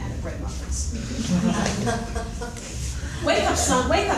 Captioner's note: audience chuckles